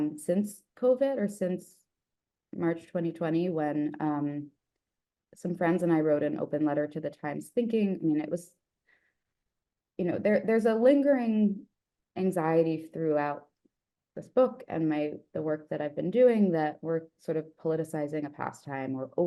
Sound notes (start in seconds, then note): none